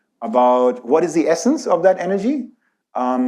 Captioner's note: none